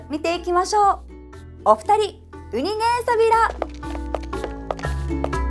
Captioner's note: in Okinawan